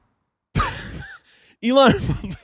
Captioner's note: wheezing